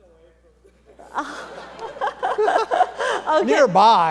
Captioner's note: panel and audience laughing